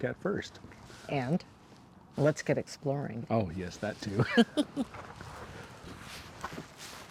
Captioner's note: laughter